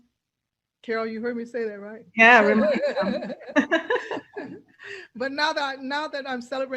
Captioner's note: laughs